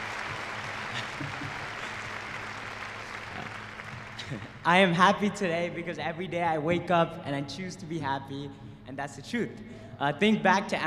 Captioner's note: cheers and applause